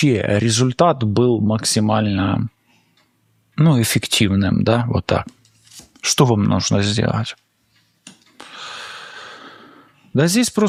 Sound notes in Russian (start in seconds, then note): 8.4 вздыхает; 8.4 тяжело вздыхает